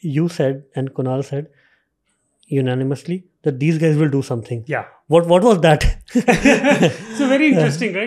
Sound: laughing

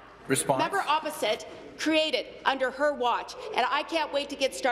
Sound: none

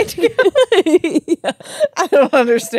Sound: laugh

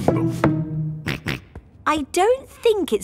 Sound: snorts

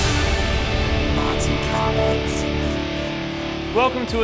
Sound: electronic unicorn voice

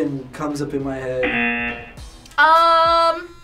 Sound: buzzer rings

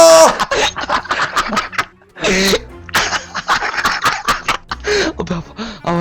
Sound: laughter

